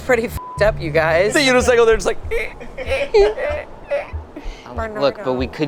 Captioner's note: beep; imitates creaking